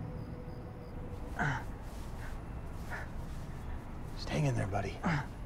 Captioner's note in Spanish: Gimidos